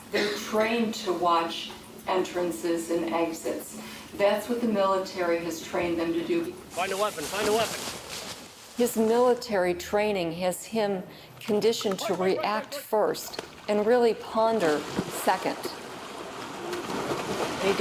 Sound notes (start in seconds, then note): 11.8 soldiers shouting; 14.2 water splashing